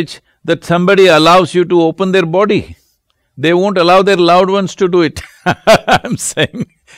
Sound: laughs

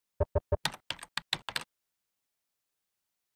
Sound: typing

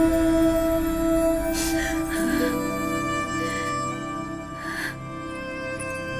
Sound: sobbing

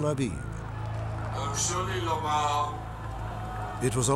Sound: non-english

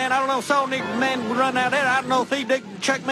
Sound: rambling

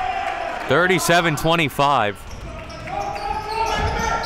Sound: applauding; yelling; whistle blows

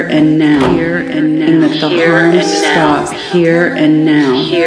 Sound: echoing

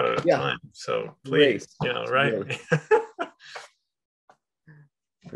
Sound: chuckles

